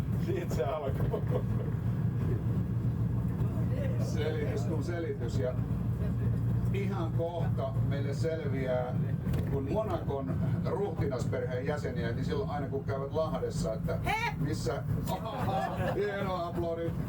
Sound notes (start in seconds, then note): 15.0 laughter